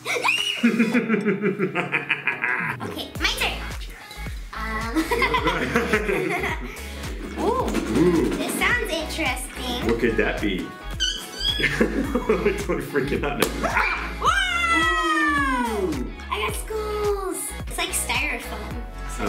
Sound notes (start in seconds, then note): 0.1 screams; 0.6 evil laughing; 4.9 laughing; 7.6 rattling; 13.4 balloon pops; 14.2 screams